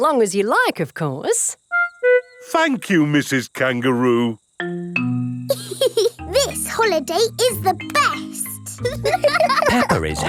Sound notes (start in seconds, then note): 6.1 giggles; 8.7 laughing